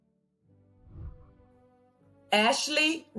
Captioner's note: whooshing